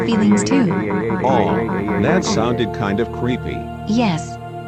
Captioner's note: crying